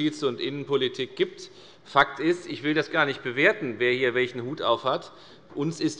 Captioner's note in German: none